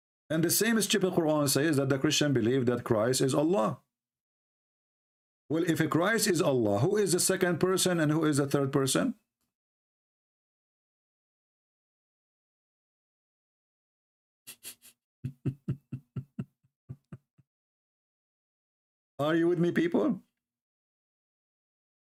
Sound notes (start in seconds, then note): 15.2 Ketawa